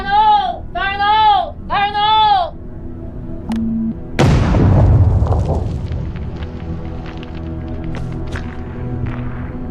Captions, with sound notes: - Bar low, bar low, bar low. (beeping) (explosion booming)